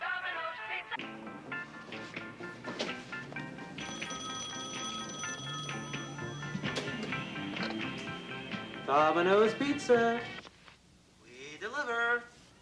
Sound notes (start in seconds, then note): 1.4 phone ringing; 1.5 upbeat music